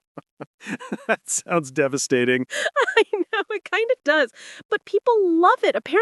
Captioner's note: laughing